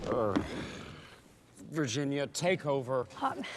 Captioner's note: sighs